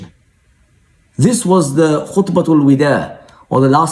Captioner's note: speaking in foreign language